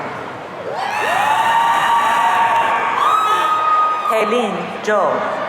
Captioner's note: audience cheering